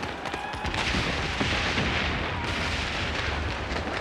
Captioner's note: guns firing